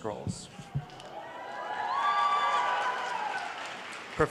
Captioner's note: applause